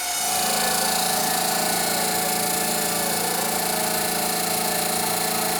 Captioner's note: CNC machine rumbling and rattling